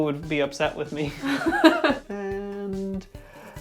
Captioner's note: laughs